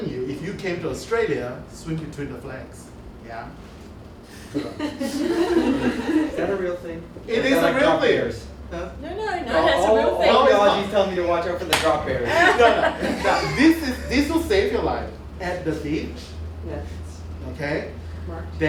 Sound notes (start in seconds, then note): 12.1 laughter